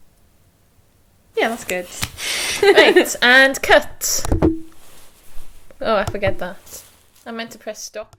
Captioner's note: voice fades out